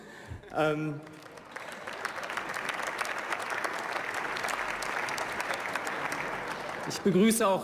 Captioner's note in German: Beifall